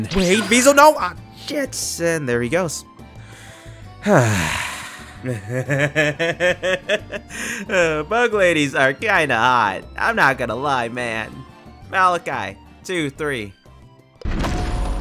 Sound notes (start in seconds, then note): 4.0 sigh; 5.2 pleased Laughter